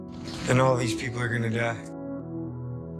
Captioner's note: voiceover